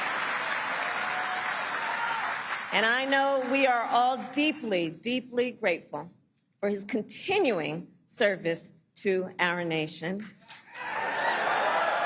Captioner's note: applause